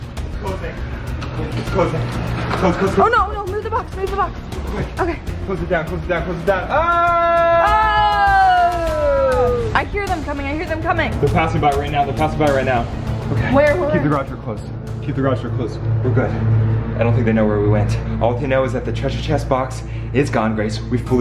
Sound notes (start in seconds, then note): 7.3 yelling